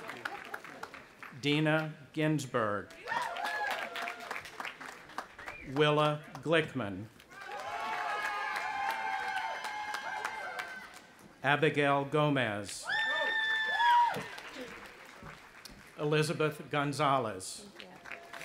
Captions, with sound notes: (audience applauding) Dina Ginzburg. (audience applauding and cheering) Willa Glickman. (audience applauding and cheering) Abigail Gomez. (audience applauding and cheering) Elizabeth Gonzalez.